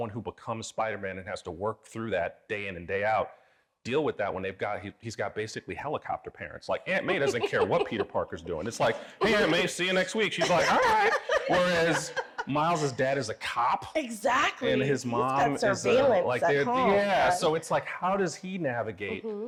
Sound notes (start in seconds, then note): 7.0 laughing; 10.4 laughing